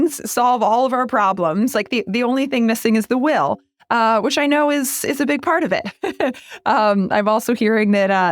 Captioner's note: laugh